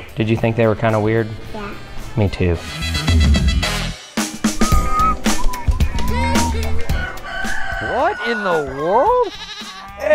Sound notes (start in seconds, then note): 4.6 whistling; 6.0 rooster crowing; 8.2 sheep bleating